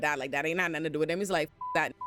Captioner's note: beep